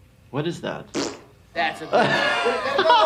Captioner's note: fart; laughter